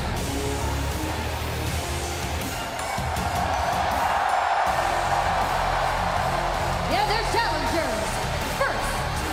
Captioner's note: crowd cheering